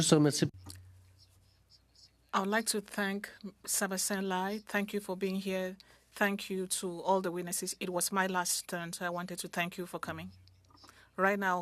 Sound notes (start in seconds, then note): 5.1 speaking French